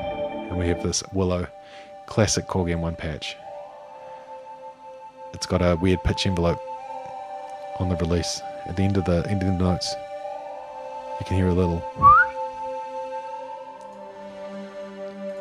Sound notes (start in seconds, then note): 11.8 whistles